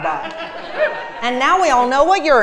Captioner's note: laugh